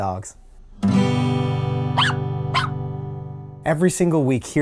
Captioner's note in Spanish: el perro ladra